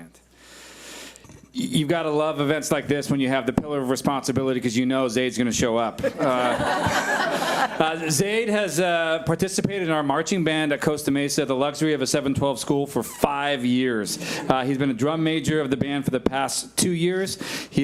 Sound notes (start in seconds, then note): 6.0 audience laughs